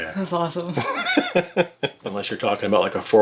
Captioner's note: laughs